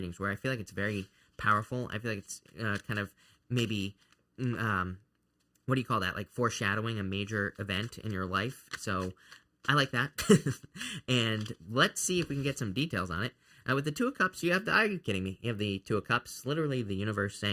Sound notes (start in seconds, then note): 10.1 chuckles